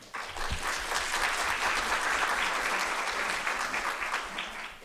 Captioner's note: audience clapping